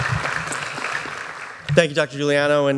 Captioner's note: applause